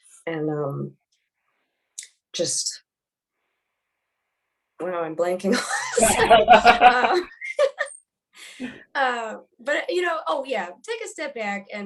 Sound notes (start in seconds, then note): 5.7 laughs; 5.8 laughing